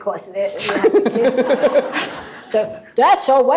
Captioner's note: laughter